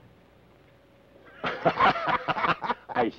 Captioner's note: both laugh